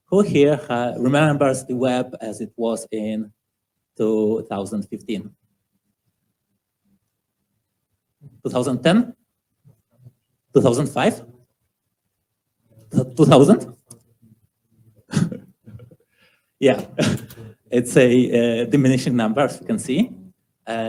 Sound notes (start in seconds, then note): 15.2 chuckling